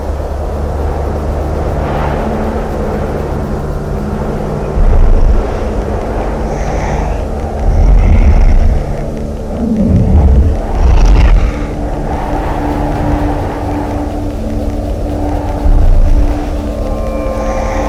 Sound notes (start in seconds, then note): 6.5 bear huffs; 9.5 bear growls; 12.4 suspenseful music